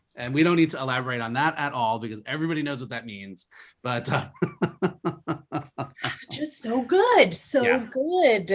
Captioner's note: laughs